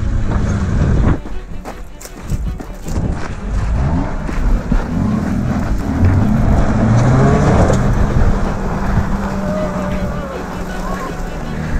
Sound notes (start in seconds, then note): 6.1 Jeep revving; 6.1 jeep spinning in sand; 8.7 people cheering; 11.6 chuckling